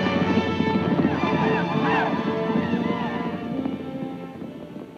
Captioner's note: Apaches shout